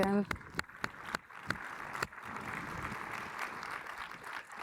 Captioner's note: audience applauds